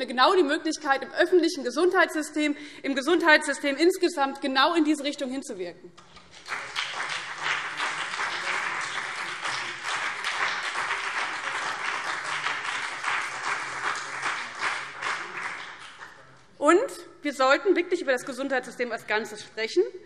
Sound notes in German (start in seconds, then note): 7.8 Beifall BÜNDNIS 90/DIE GRÜNEN und vereinzelt CDU